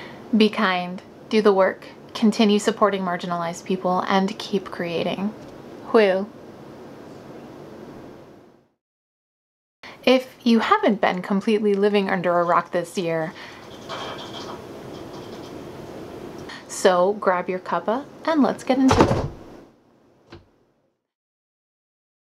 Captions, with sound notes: Be kind, do the work, continue supporting marginalized people, and keep creating. Hwyl! If you haven't been completely living under a rock this year- [LOUD MECHANICAL WATER HEATER NOISES] So, grab your cuppa, and let's get into- [SOMETHING LOUDLY FALLS OVER]